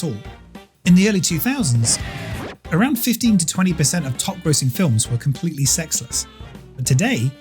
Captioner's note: record scratching